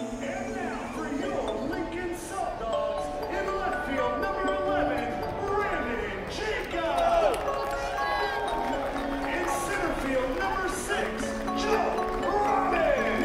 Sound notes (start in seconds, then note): 5.8 crowd cheering